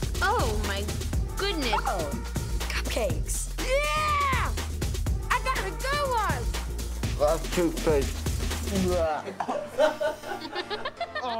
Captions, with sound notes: Oh my goodness! Oh, cupcakes! Yeah! I got a good one! That's toothpaste. [gagging] [laughing]